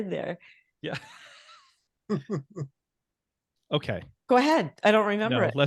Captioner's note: all chuckling